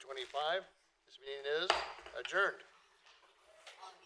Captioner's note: gavel